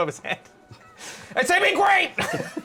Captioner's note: shouting; laughter